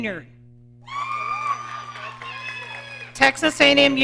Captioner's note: audience cheering